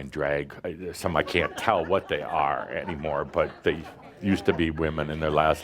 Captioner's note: some laughter